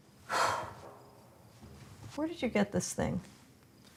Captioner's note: sighs